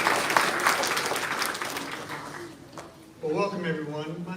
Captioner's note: applause